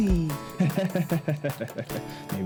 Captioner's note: laughs